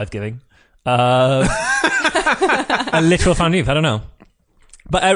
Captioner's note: laughs